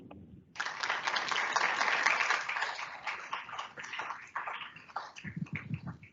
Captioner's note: audience applauds